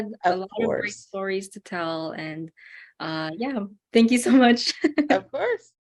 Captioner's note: laugh